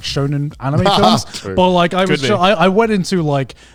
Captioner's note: laughing